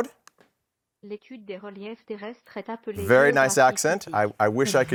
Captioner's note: speaking French